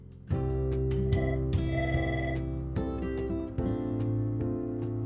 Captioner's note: phone rings